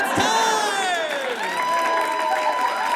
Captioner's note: audience cheers and applauds